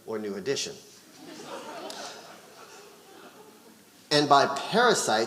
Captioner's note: audience laughing